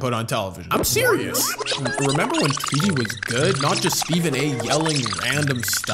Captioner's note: rewind sound